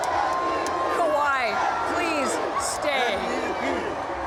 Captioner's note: chanting